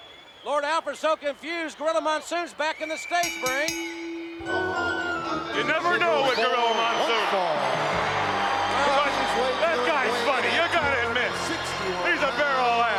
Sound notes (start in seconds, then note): 3.2 bell ringing